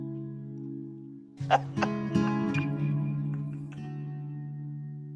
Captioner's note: Moira laughs